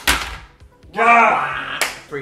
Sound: huffs

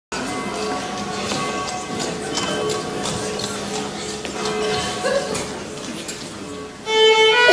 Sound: Big Ben tolls

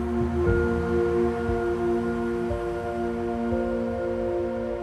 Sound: humming

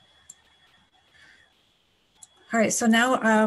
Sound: clicking

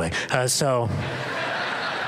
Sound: laughter

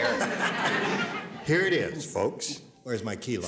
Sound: laughter

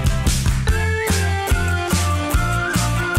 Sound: more whistling? yes!

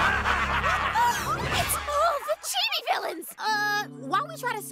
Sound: all laughing; both gasp

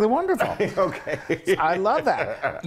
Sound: laugh

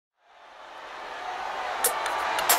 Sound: audience cheering

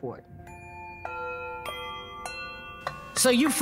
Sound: clock chimes

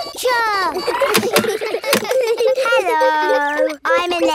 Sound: kids giggling; laughs

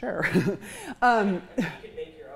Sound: chuckles

